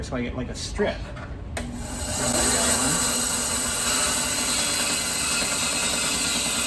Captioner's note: saw buzzing